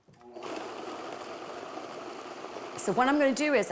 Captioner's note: blender whirring